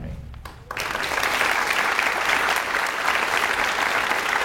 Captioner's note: audience applauds